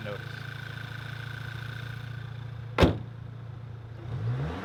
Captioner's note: hood slams shut; MK6 GTI Intake Noise Revs